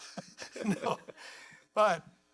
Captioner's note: laughs